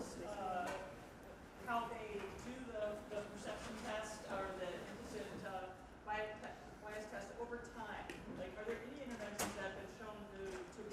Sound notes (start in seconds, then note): none